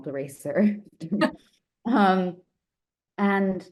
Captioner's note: chuckling